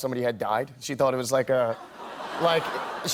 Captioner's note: laughter